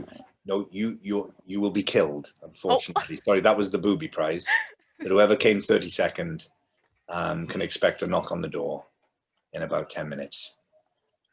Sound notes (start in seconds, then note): 4.4 laughs